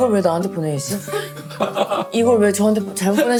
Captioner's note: chuckling